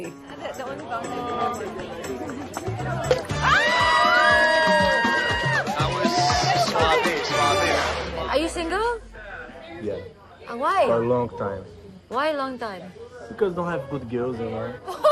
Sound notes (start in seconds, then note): 0.3 overlapping chatter; 2.6 cheering